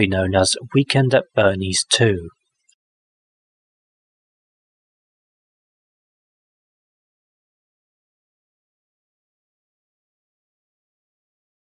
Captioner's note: long pause